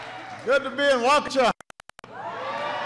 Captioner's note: applause